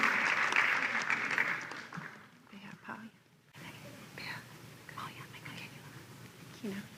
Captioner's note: whispering